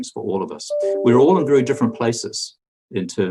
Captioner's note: computer dinging